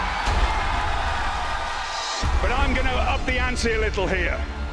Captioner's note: crowd cheering